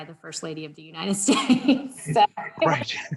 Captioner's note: laughing